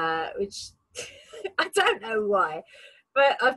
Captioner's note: laughs